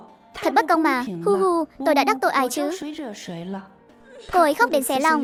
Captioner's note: sob